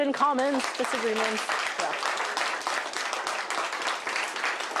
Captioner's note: applause